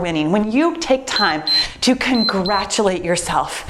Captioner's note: timer beeps